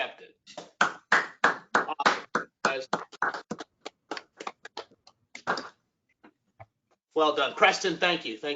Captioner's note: applause